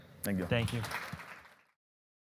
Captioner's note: audience applause